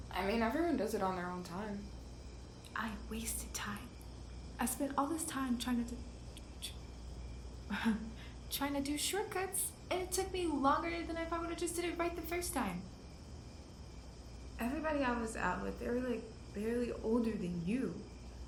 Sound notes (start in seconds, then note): 7.7 laughs